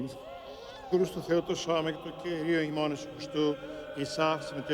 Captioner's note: speaking Hebrew